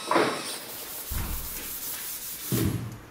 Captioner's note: rubbing noise